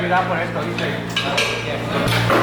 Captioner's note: speaking foreign language in background